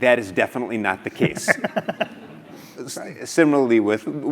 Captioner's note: laugh